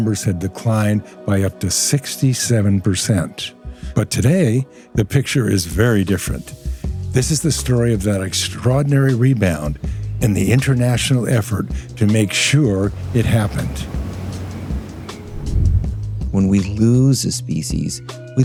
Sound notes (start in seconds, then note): 14.2 gentle music; 14.2 loud sound of water waves